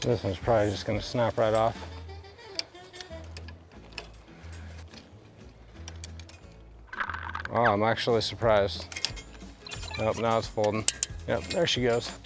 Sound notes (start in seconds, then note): 2.1 upbeat music; 9.0 chain ratcheting